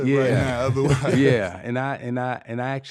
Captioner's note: laughing